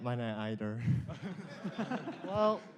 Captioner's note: laughter